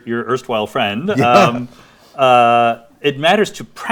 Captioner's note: laughs